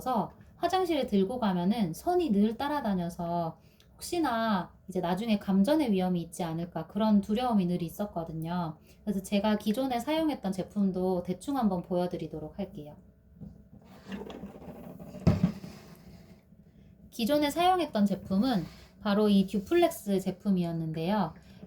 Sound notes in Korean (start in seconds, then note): 13.8 스르륵~~